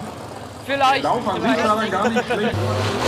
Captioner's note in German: Lachen